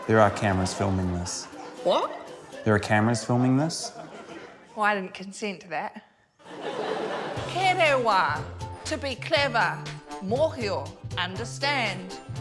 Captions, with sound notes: - There are cameras filming this. - What? - There are cameras filming this. - Well, I didn't consent to that. (LAUGHTER) Kerewa ― to be clever. Mohio ― understand.